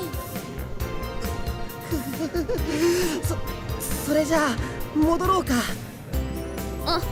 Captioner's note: weary groan